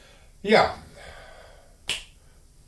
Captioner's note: finger snap